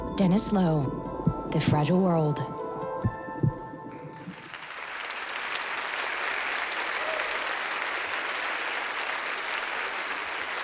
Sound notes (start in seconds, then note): 4.1 audience applauding